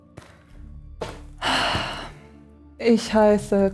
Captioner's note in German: laaaaaanger entnervter Seuftzer